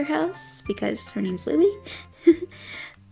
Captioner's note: giggles